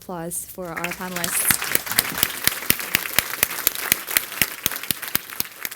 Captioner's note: applause